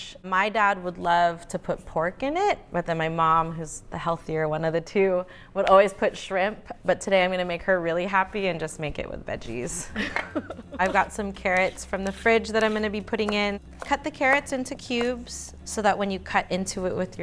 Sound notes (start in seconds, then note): 9.7 laughs